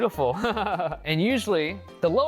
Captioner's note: laughs